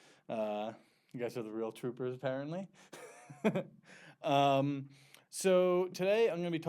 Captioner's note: chuckles